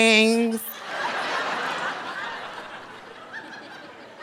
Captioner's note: audience laughing